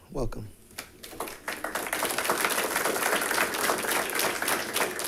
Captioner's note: audience applauding